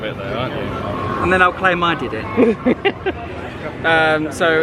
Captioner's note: laughs